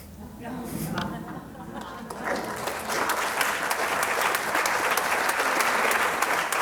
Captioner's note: audience applauds